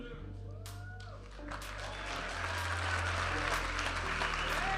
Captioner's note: audience applauding and cheering; vibrant music